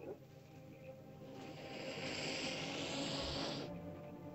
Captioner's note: ominous music; lizard hisses; ominous music